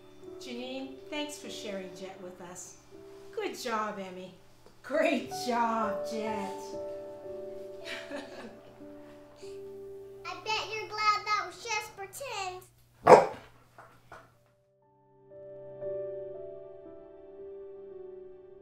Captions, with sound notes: Janine, thanks for sharing Jet with us. Good job Emmy. Great job Jet. (laughing) I bet you're glad that was just pretend! (dog barks) (dog barks)